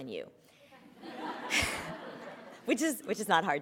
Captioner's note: laughter